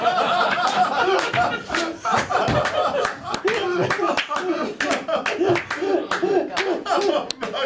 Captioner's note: laughter